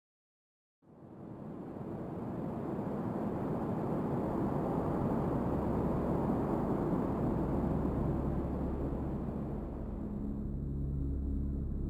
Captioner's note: wind blowing